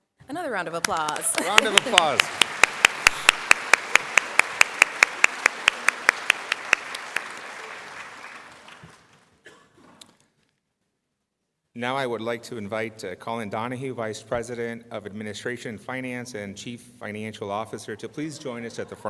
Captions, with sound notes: Come on applause. [ Applause ] Now I would like to invite the vice president of administration